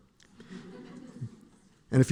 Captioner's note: laughter